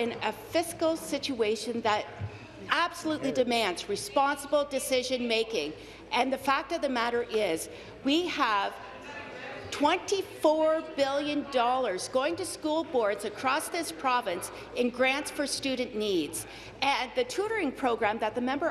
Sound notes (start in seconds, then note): none